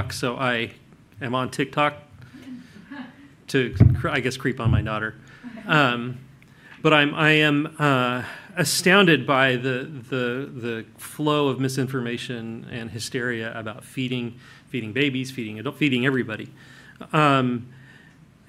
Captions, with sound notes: so I am on TikTok to, I guess, creep on my daughter (laughter) but I am astounded by the flow of misinformation and hysteria about feeding, feeding babies, feeding adult, feeding everybody.